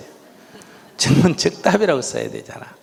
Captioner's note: audience laughing